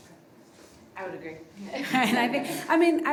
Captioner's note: everybody laughing